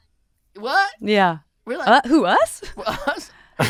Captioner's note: laughing